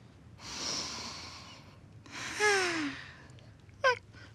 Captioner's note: both inhale deeply, then exhale; yawns